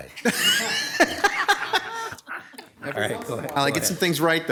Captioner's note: council members laugh